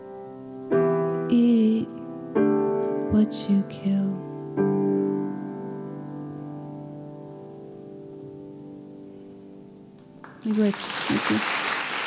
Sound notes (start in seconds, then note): 3.9 piano music ends; 10.2 applause